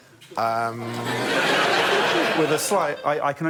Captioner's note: laughter